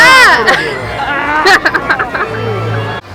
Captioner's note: laughs